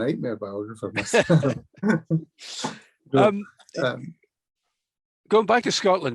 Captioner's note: laughs